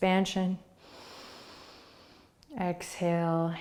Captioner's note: inhaling